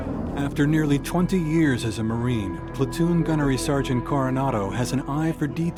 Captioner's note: voiceover